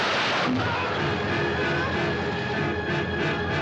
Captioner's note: Gritos